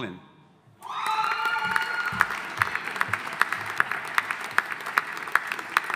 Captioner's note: audience applauding